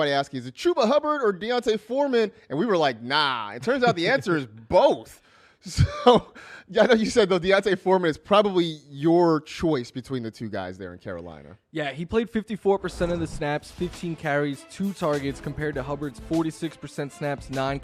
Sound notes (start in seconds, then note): 5.7 laughs